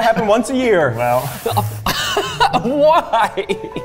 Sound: laughing

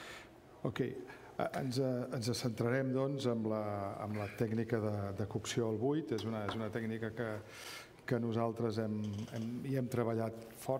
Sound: speaking catalan

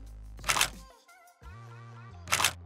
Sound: shutter click

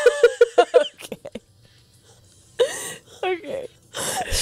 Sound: panel laughing

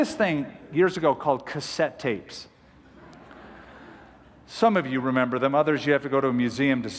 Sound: laughter

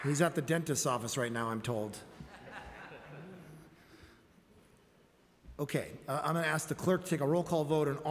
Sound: applause

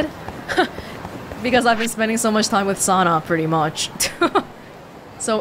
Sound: chuckles; chuckles

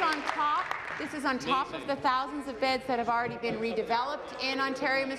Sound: continued applause

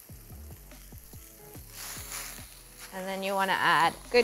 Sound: leaves sizzling; light upbeat music

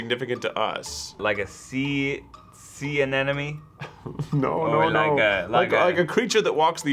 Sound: chuckles

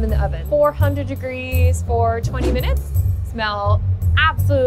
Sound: air whooshing

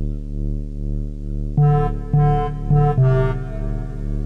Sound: beeping

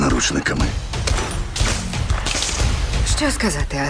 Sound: electricity crackling

